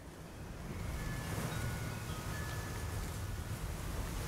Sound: wind blowing

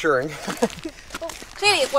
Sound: everyone chuckles

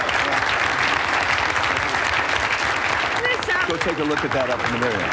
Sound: applause

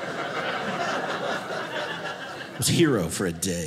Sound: audience laughing

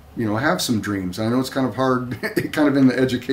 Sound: laughs to self

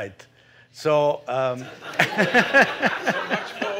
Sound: laughter

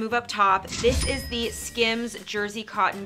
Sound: cash register dings

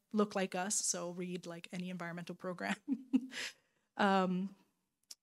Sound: laughing

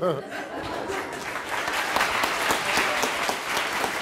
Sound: applauding

